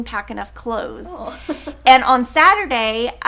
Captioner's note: chuckling